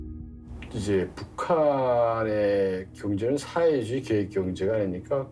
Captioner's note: speaking Korean